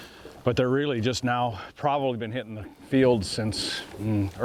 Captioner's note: none